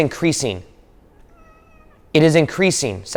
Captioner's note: Segment meows